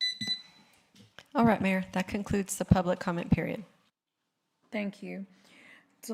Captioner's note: buzzer